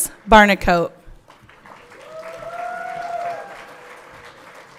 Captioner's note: everyone cheering